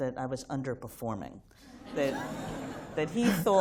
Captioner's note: laughter